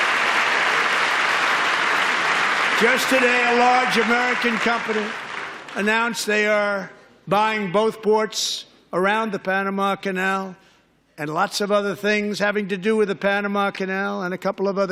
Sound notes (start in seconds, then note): 0.0 applause